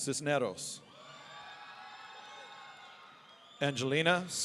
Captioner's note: audience cheering